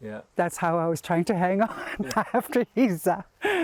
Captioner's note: laughs